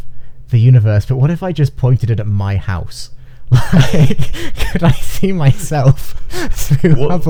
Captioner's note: laughing